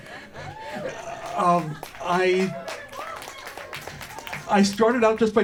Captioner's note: scattered cheers and applause